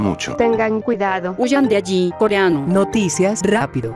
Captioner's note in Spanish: Korean